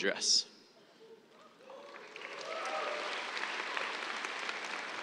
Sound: cheers, applause

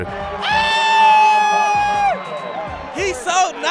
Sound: screaming

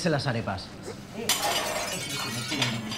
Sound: glass breaking

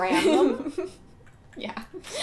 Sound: laughing; laughter

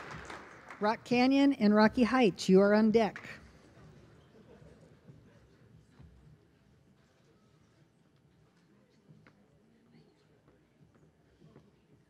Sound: applause

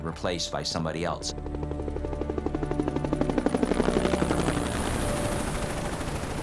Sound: helicopter blades whirring

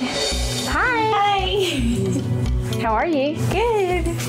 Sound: giggles

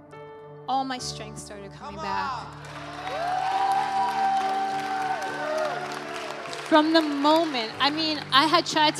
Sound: audience cheering

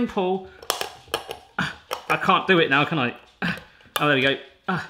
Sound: snapping

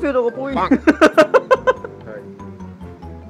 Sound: laughing

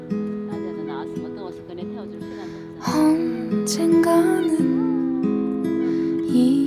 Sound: Jenn's mom speaking in a foreign language

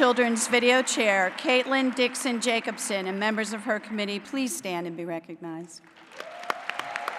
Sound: applause

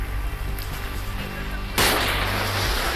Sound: explosion

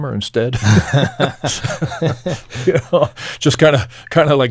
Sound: laughing

